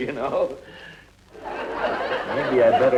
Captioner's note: audience laughing